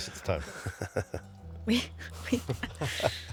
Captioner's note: laughing